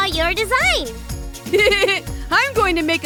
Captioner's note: chuckles